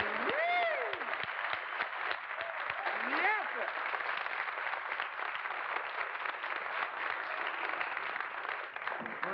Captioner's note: applause